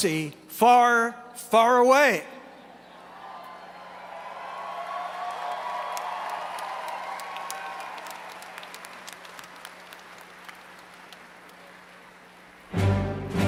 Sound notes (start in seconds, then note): 4.1 applause